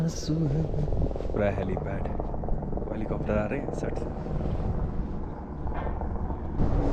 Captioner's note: helicopter flying above